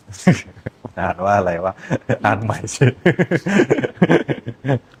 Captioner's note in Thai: เสียงหัวเราะ